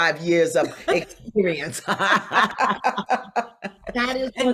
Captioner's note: both laugh